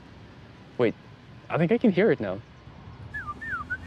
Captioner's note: mimics a bird call